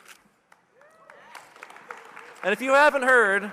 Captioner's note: audience cheering and applauding